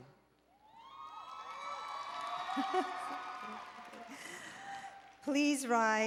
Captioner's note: applause and Cheering